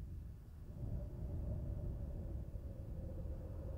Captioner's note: wind whistling